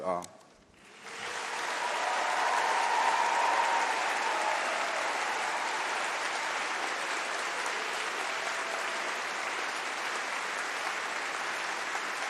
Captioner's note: applause